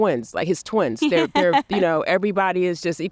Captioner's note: laughs